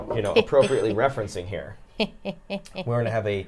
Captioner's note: chuckles